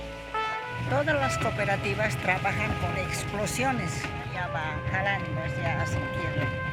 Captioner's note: speaking in foreign language